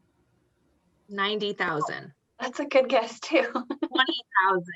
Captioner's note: laughs